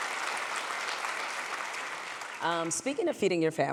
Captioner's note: applause